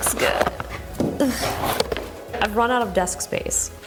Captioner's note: grunts